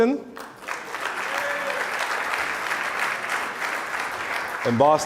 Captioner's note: audience applause